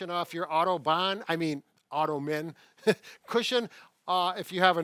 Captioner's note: laughs